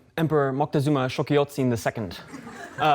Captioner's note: laughter